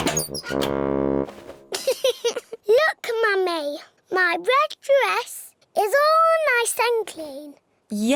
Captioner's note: giggles